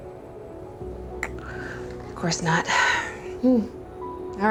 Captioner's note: clicks tongue